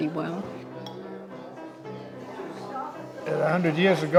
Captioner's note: muffled chatter